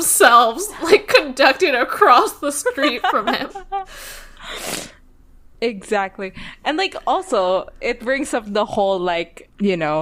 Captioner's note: laughs